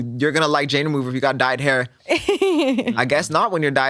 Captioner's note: laughs